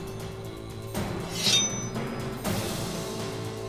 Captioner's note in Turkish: Kılıç sesi